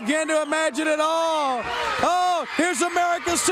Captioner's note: crowd cheering